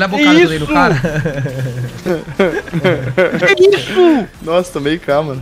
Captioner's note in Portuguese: risos